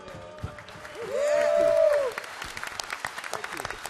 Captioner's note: applause